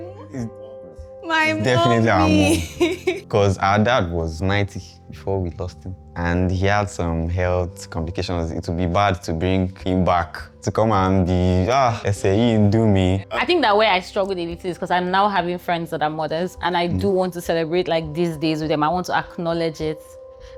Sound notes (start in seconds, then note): 1.5 laughs; 13.1 laughs